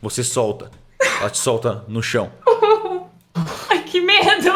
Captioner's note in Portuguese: choro